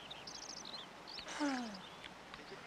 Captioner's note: exhales